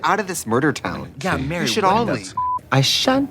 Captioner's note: beeping